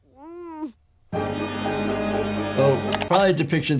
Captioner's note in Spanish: Bart gime; música dramática